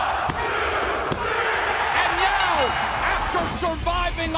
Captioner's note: crowd cheering